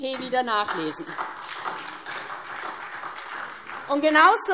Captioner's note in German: Beifall SPD, BÜNDNIS 90/DIE GRÜNEN und Freie Demokraten